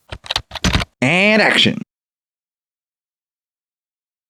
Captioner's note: typing